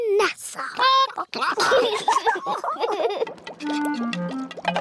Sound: chickens chatter; children giggle

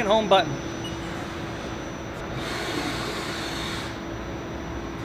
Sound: button beeping

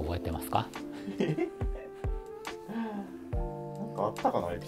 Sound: laughing

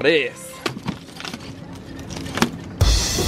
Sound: plastic ripping; upbeat drum music

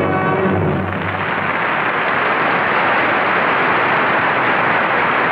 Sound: audience applauding

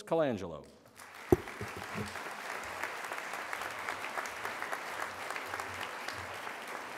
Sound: audience applause

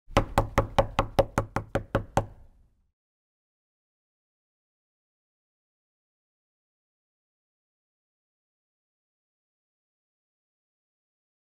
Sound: silence, occasionally interrupted by knocking

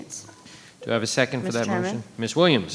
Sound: microphone beeping

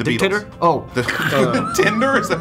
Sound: laugh

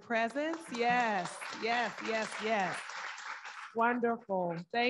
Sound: audience applauding

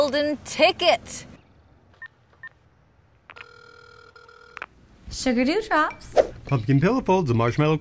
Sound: phone dials and rings

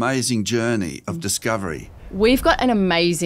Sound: air whooshing

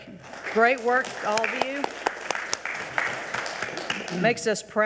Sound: audience applauding

